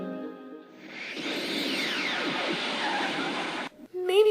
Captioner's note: time Travel Sounds